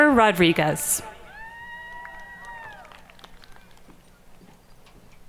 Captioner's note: audience cheering